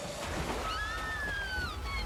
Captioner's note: screaming